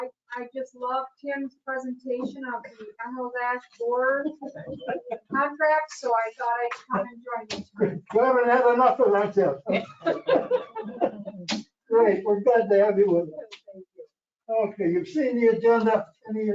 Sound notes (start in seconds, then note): 4.0 chuckling; 10.0 laughing